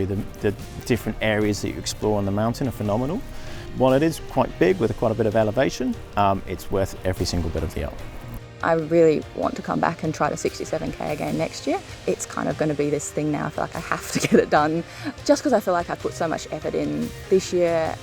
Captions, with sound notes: The different areas that you explore on the mountain are phenomenal. While it is quite big with quite a bit of elevation, it's worth every single bit of the up. - I really want to come back and try to 67k again next year. It's kinda gonna be this thing now I feel like I have to (chuckles) get it done. Just 'cause I feel like I put so much effort in this year,